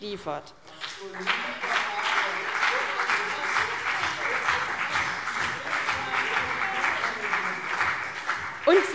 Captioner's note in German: Beifall CDU und BÜNDNIS 90/DIE GRÜNEN - Zurufe SPD